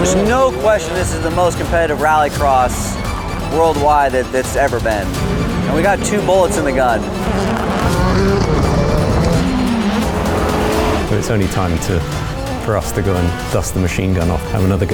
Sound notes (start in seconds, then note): 9.2 engines revving; 9.2 intense music continues